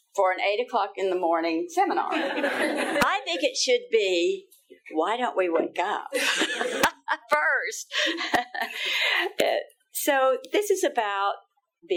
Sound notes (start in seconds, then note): 2.0 all laughing; 6.2 laughing; 8.0 all laughing